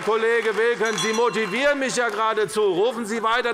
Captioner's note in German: Glockenzeichen des Präsidenten